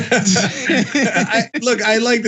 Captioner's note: laugh